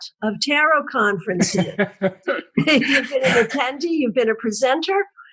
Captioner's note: laugh